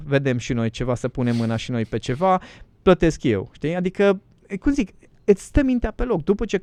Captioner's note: snoring